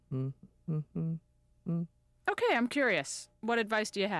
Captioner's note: humming